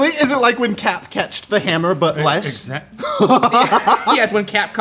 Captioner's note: laughs